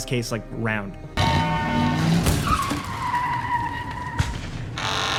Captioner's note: car horn honking; crashing